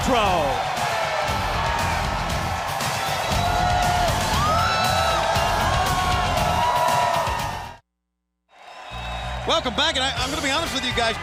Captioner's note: crowd cheering